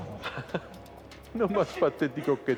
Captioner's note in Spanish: Risas